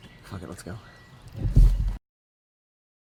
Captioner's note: none